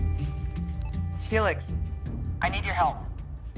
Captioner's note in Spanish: Bip